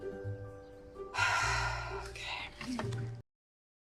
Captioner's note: sighing